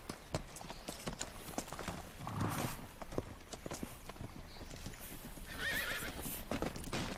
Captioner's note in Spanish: Relinchos